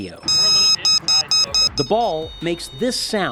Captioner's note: alarm beeping